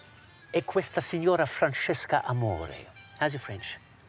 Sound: speaks foreign phrase

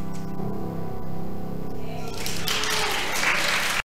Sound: piano music; audience applauding

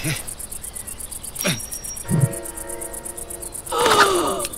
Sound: iron nail clings

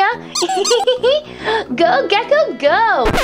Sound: comical squeaking; Vampirina giggling

